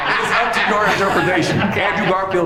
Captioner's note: laughs